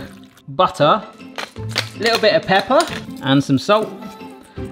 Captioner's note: pepper mill grinding